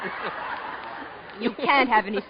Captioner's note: audience laughing